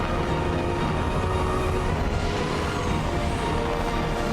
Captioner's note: lightning storm